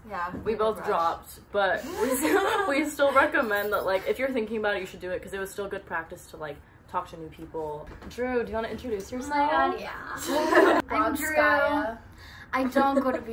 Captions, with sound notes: Yeah, we both dropped but we. >> [LAUGH] >> We still recommend that like, if you're thinking about it, you should do it, because it was still good practice to like, talk to new people. Drew do you want introduce yourself?